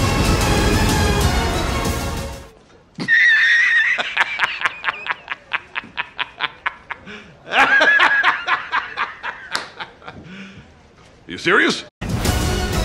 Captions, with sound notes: [Jameson laughter] [James laughter continues] You serious?